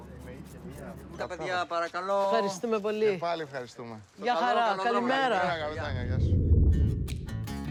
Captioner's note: speaking Greek